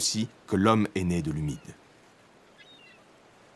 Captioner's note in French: on entend le bruit des mouettes et des vagues